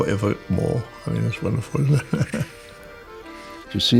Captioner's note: laughs